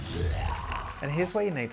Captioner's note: zombie grunts